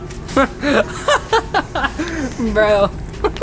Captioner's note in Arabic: أمي تضحك